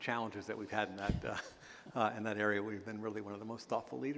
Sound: chuckle

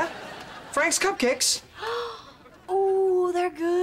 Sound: gasping

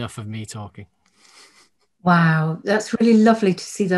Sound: chuckles

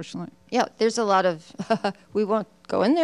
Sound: laughs

